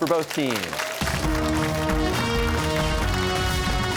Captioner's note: cheers and applause